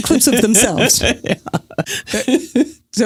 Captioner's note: laughs